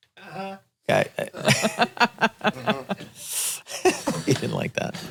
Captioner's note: laughs